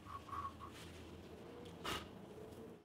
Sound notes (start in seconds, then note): 1.9 blowing